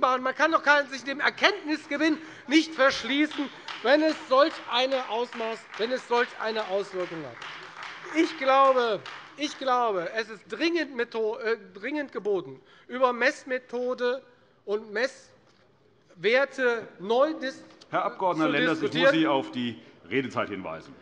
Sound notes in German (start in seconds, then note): 7.2 Beifall Freie Demokraten und vereinzelt AfD